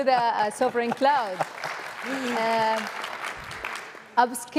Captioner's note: applause